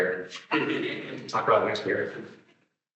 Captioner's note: attendees laughing